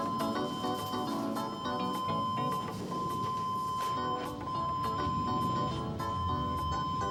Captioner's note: alarm beeping